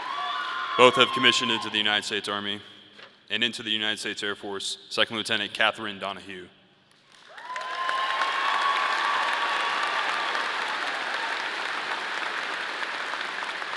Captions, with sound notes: Both have commissioned into the United States Army. And into the United States Air Force, Second Lieutenant Catherine Donohue. (audience cheering) (audience applauding)